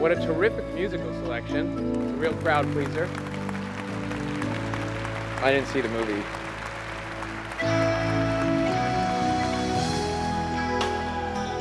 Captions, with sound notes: - What a terrific musical selection. It's a real crowd-pleaser. (audience applauding) I didn't see the movie. (gentle music)